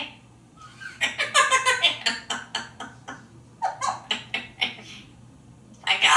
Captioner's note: laughing